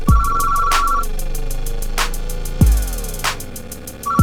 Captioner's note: phone rings